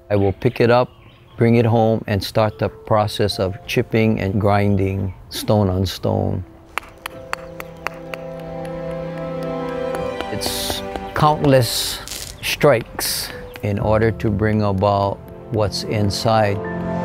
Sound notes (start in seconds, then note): 6.7 tool banging